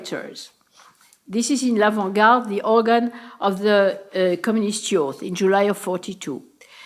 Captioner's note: french